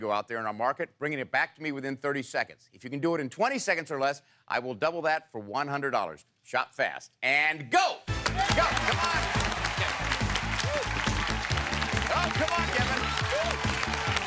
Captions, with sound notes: in our market and bringing it back to me within 30 seconds. If you can do it in 20 seconds or less, I will double that for $100. Shop fast, and go! Come on, Kevin! (applause) (cheering) Come on, Kevin!